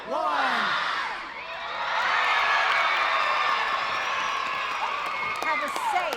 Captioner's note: audience cheering; audience applauding